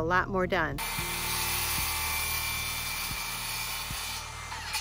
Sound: handsaw buzzing

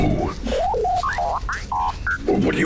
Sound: droid responds loudly

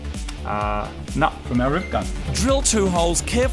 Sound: new message chime

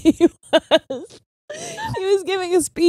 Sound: laughs

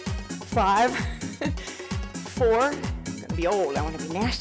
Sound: laughs

